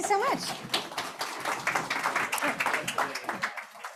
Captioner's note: audience applauding